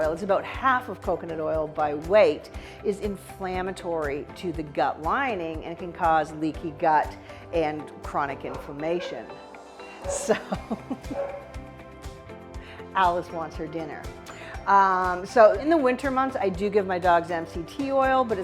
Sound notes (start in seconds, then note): 11.1 dog barks